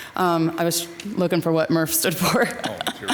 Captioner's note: laughs